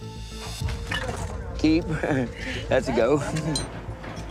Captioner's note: laughs